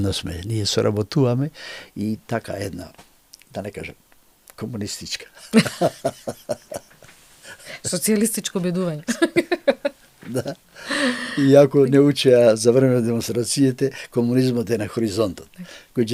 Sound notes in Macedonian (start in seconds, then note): 5.4 смеа; 10.7 тешко дишење